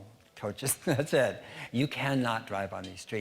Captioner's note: laughing